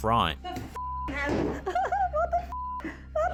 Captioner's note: beep; laughing